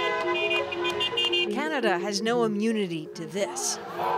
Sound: horns honking

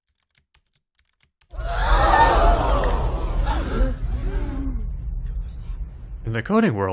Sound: crowd gasping

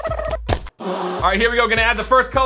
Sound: thump

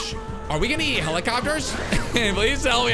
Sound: laughs

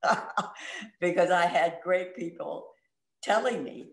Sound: laugh

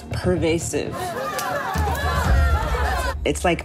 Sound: crowd yelling

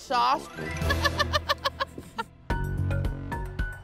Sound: laughs

